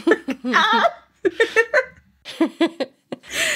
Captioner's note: laughing